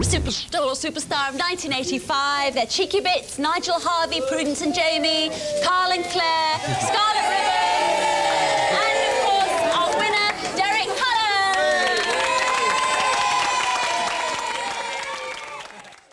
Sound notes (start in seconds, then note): 13.3 applause and cheering